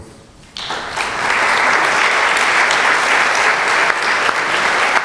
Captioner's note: applause